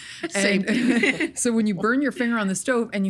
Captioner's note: both laughing